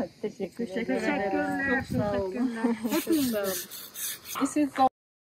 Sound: group speaking Turkish

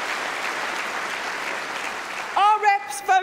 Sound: applause

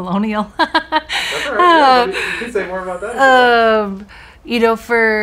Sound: laughs

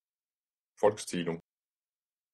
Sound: fast Pronunciation

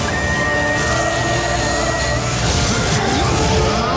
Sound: high pitch whistle

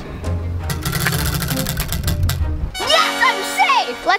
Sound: wheel clanks around metal axle

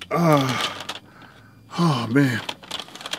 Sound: sighs

